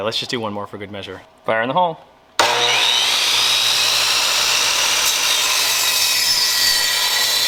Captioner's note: saw buzzing